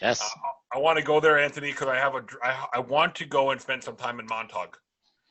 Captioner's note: laughs